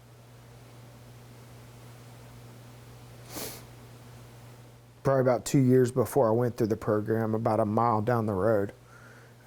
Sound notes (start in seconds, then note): 3.2 sniffles